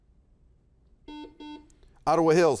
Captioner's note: buzzer buzzes